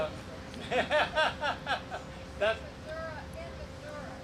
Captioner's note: laughs